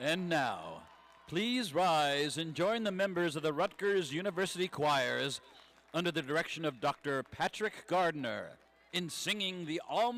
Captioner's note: cheers